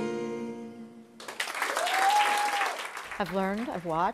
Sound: applause

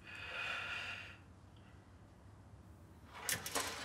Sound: inhales

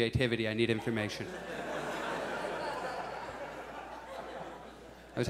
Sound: audience laughs

